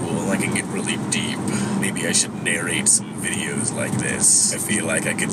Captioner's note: deep voice